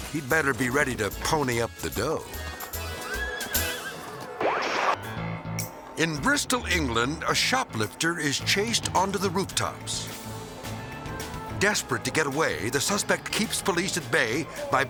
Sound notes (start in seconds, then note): 3.0 horse neighing